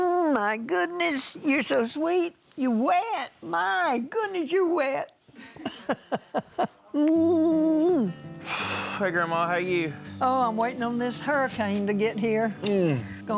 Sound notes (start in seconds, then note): 5.5 laughing